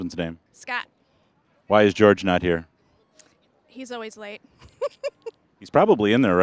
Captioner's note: giggling